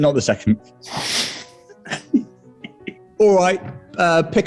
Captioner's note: sniggering and giggling